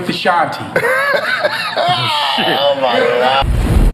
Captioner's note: interviewer laughing